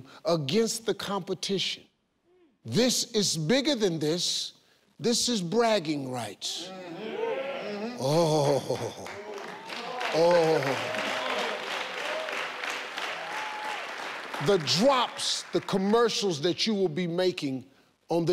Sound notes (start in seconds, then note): 6.8 cheering; 9.0 audience cheering